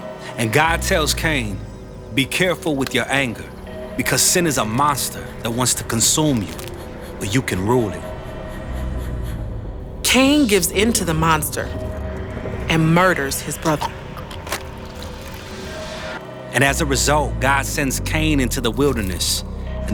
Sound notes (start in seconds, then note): 13.7 choking, blood spilling